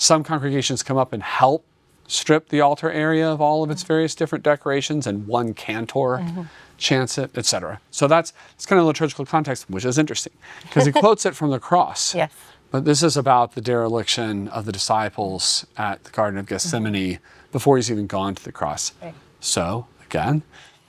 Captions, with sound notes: Some congregations come up and help strip the altar area of all of its various different decorations and one cantor chants it, etc. So that's kind of a liturgical context, which is interesting, —[Laughs.] because he quotes it from the cross. —Yeah. But this is about the dereliction of the disciples at the Garden of Gethsemane before he's even gone to the cross. —Right. So again…